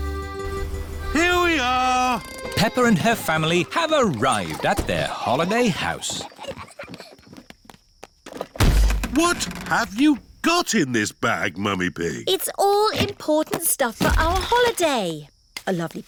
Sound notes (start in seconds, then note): 6.9 peppa and george giggling; 8.5 thud